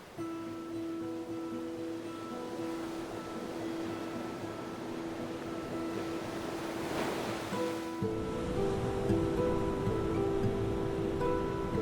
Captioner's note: waves crashing; pensive music